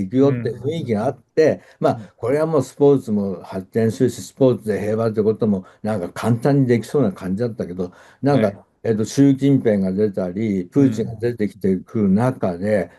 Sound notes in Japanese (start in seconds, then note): 2.4 咳払い